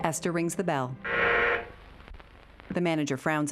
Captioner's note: bell buzzing